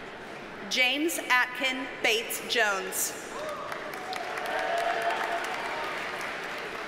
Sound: audience cheers and applauds

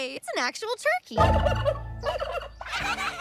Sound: baby birds laughing; chitters; Mrs. Tab chuckles

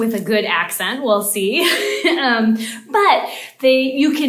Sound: chuckling

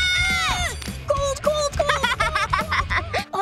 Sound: laughing

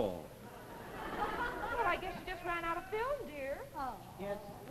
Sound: audience laughs

